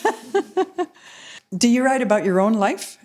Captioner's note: chuckles